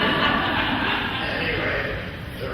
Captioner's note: laughing